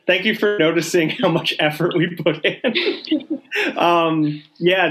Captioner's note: laughing